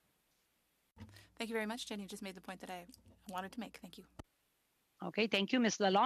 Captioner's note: speaking French